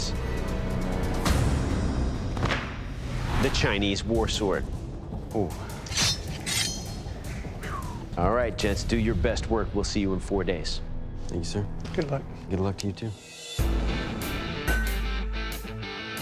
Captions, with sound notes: [intense music] --the Chinese war sword. Ooh. [blade clanking] All right, gents. Do your best work. We'll see you in four days. Thank you, sir. Good luck. Good luck to you, too. [rock music]